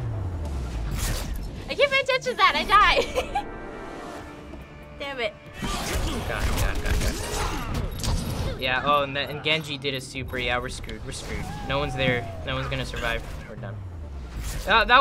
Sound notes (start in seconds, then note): 5.6 quietly